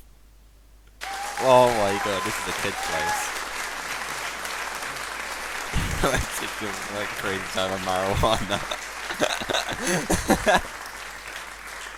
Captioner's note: applause